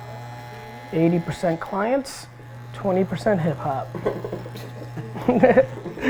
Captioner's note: laughs